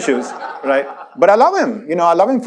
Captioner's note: audience laughs